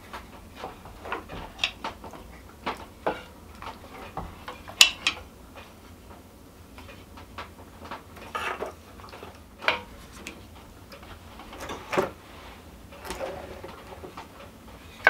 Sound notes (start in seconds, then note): none